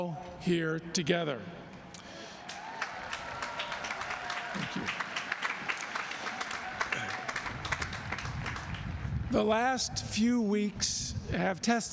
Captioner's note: applause